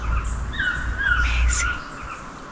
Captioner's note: whispers